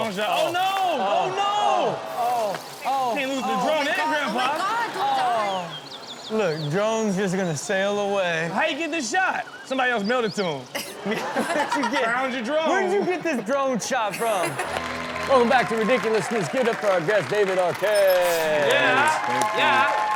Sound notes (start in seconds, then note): 14.4 applause; 14.7 rock music